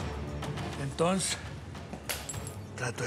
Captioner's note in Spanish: ruido al romperse el vaso